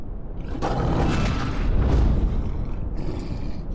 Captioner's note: growling